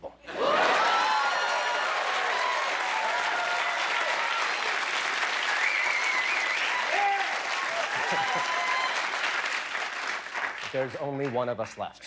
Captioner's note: cheers and applause